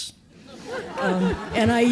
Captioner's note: audience laughing